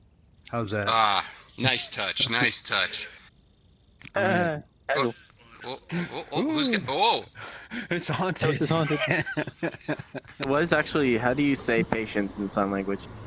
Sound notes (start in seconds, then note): 5.0 laughing